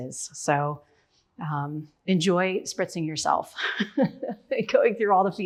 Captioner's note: laughs